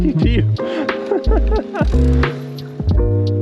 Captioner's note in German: lacht